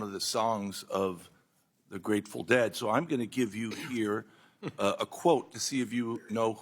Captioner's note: laughter